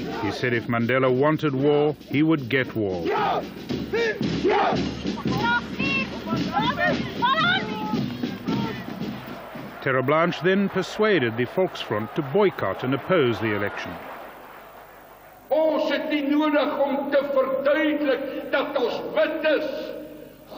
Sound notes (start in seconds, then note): 3.4 yelling; 5.8 drumming; 15.9 in foreign language